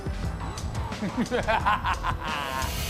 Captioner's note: evil laughter